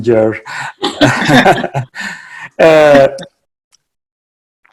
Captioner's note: laughing